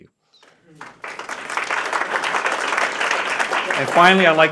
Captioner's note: applause